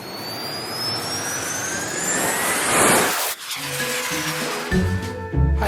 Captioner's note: rocket blasting off